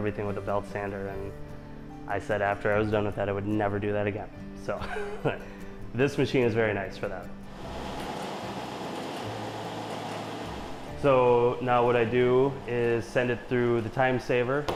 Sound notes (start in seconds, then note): 4.8 chuckles; 7.5 machine humming